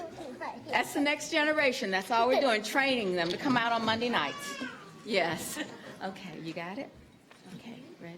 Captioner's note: laughter